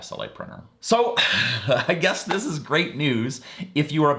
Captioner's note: sighing and laughing